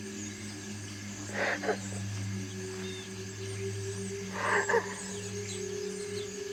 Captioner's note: Nick Sobbing; crickets Chirping Continues